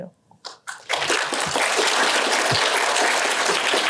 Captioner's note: applause